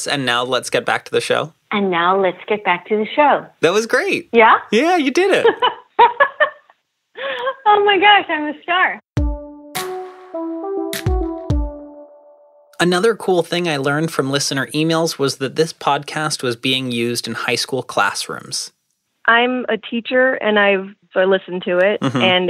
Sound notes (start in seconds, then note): 5.1 laughing